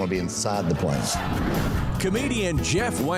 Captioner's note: audience laughs